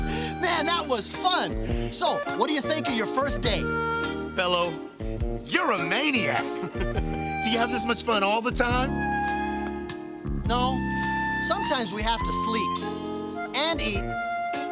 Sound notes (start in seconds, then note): 5.5 laughs